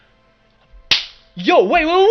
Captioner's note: clap